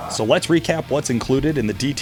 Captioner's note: voiceover